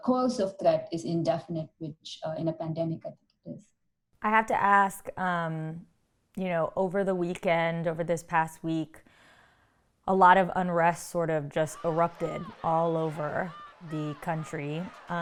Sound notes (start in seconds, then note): 11.7 crowd yelling